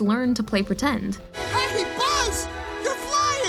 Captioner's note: shouts